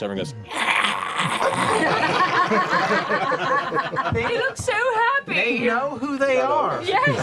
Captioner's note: growls; laughter